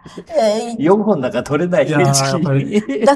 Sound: laughs

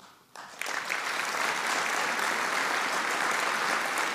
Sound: audience applauding

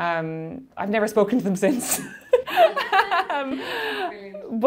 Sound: laughing

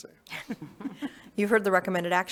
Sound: board members chuckling

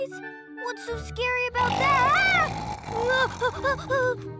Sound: loud rumbling snore; Hogi whimpering

